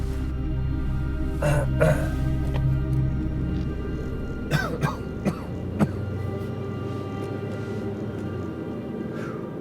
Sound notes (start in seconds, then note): 1.4 clears throat; 4.4 coughs